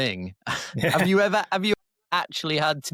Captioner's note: chuckle